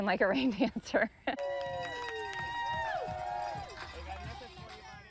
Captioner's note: crowd cheering